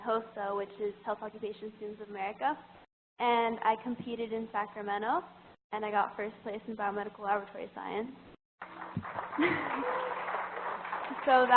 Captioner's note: applause